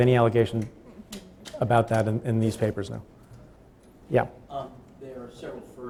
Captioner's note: stutters